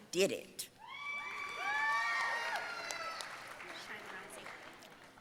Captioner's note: audience cheering and applauding